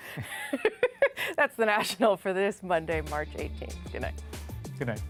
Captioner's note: laughter